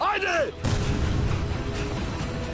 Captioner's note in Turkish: Patlama sesi